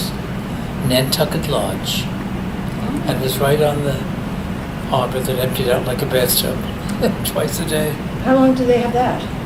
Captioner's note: laughs